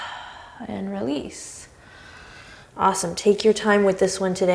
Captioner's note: deep breaths